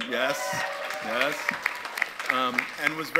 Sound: audience applauds

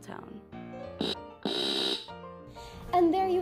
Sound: taser zaps off-screen

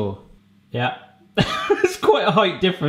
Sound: laughing

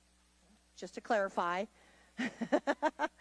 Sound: laughs

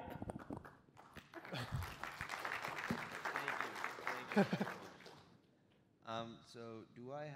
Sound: applause

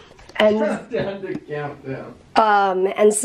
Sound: laughing

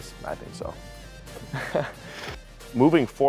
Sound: laughs

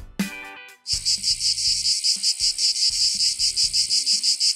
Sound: cicadas chirping

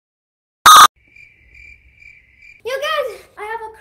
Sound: crickets chirping

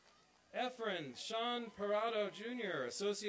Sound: applause

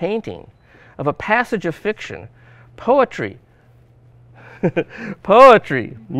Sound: chuckles

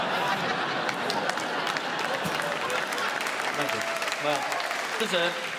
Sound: applause

